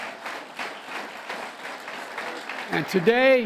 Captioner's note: applause